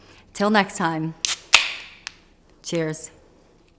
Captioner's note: can top popping